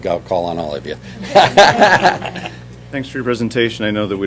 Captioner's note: laughter